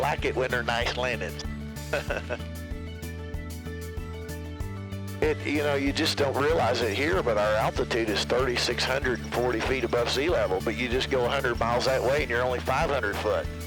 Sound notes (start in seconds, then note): 1.8 laughs; 3.4 upbeat music